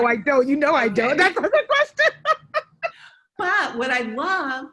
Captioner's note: laughs